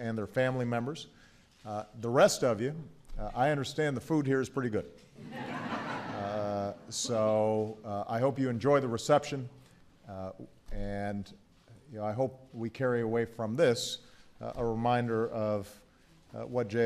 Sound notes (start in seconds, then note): 5.2 laughter